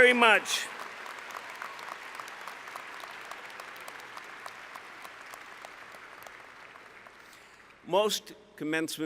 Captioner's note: applause